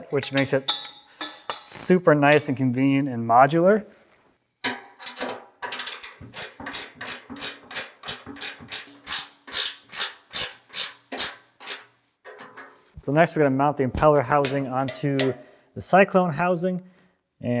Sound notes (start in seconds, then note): 5.6 wrench clinking; 5.6 wrench ratcheting